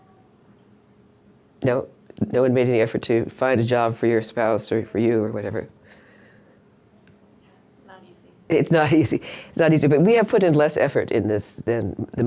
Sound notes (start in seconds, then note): 8.0 voiceover